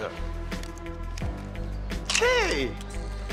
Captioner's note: camera shutter